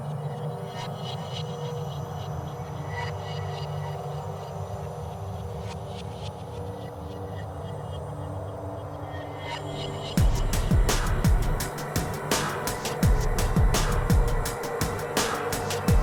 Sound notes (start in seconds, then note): 0.2 eerie transition sounds; 7.1 mysterious, surreal sounds